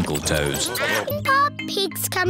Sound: duck quacking

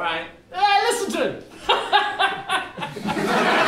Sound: laughing

